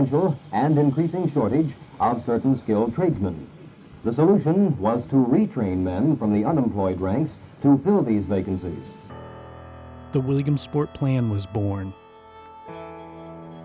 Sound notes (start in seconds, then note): 10.1 voiceover